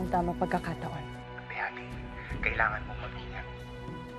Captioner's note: Priam over phone